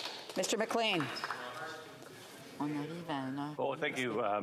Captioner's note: speaking FRENCH